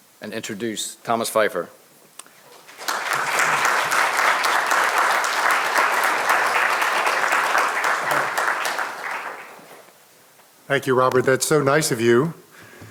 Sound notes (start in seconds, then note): 2.5 audience applauding